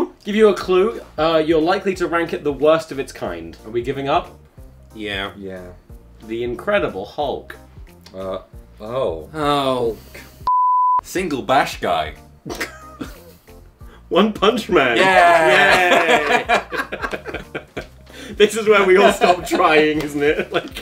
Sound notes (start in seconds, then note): 12.5 laughs